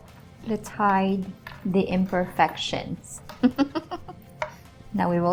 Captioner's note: chuckles